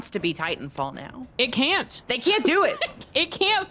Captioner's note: laughs